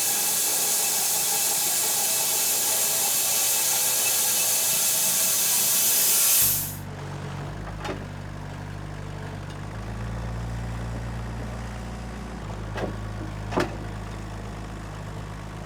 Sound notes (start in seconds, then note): 8.0 engine rumbling